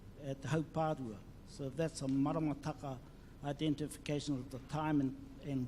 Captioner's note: speaks in foreign language